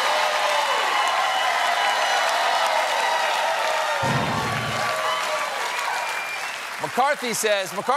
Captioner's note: cheers and applause; cheers and applause